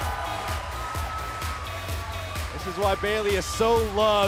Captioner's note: crowd chatter